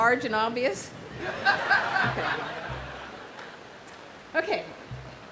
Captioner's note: audience laughs loudly